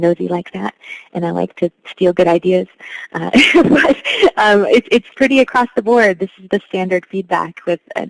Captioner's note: laughs